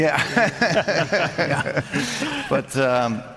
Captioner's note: laughter